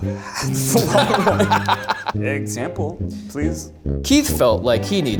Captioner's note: group laughs